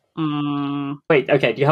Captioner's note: lower-pitched